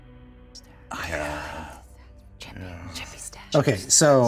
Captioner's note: Jasmine whispering